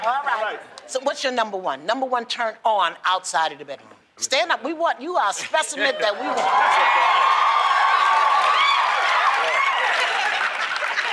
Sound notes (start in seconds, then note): 6.2 cheering; 7.9 applause